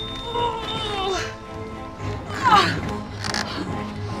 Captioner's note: panting; jogger grunting